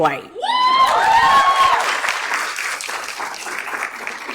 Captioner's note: audience cheers